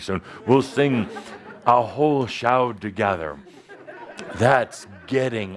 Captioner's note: laughter